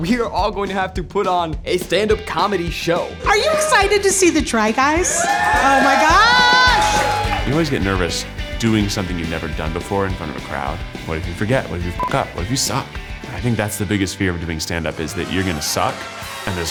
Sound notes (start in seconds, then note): 5.4 crowd cheers; 12.0 beep